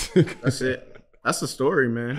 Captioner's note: laughing